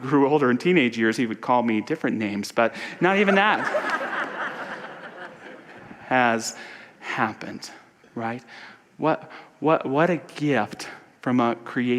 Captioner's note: audience laughter